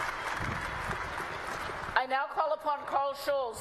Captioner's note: applause